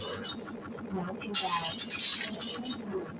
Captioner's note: scratch teacher shouts